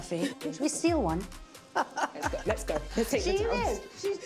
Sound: laughing

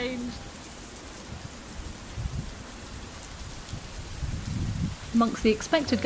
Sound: rain noise

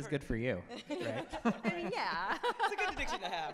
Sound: laughs

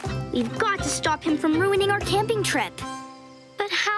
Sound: none

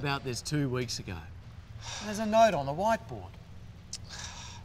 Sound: sighs

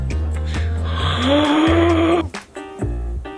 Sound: gasp

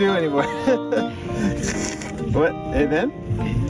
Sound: laughs

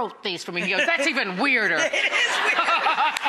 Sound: audience laughs

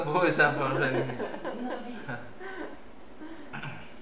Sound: laughter

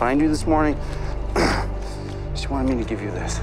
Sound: clears throat

